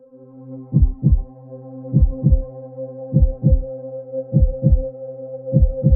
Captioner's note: somber music; heart pounding